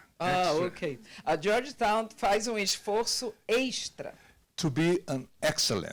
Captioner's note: translator speaking Portuguese